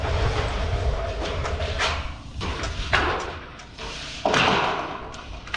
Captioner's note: roofing sheets clanking